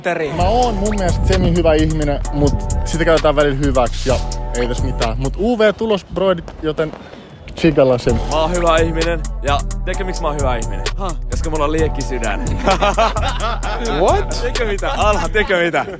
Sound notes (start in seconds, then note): 12.4 laughter